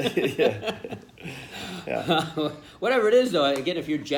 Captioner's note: laughter